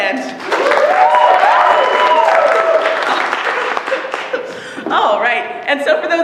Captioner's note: applause